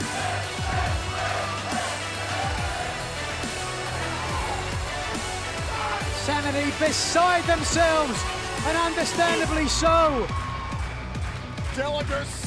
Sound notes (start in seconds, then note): 0.0 fans chanting